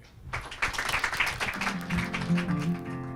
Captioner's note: audience applauds; gentle music